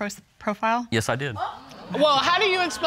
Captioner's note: audience exclaims